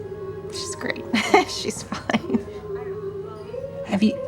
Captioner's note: chuckles